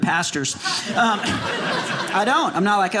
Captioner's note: audience laughing